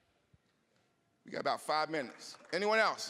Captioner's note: scattered applause